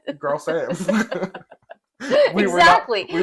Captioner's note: laugh